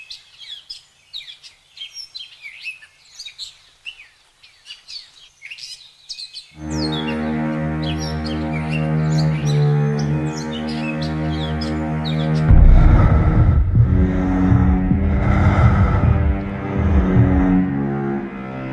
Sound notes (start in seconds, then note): 6.7 suspenseful music playing; 12.3 breathing heavily